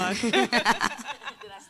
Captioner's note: panel laughing